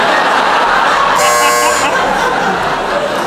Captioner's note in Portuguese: campainha